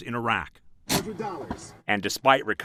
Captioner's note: radio Announcer